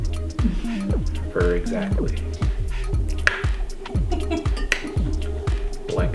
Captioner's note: clicks tongue twice